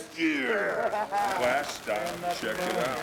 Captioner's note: speaker chuckling